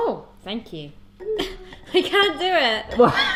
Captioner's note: laughs